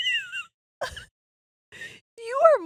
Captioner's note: laughing